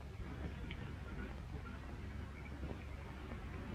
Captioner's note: engine rumbling